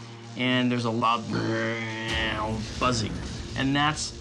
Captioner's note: makes droning noise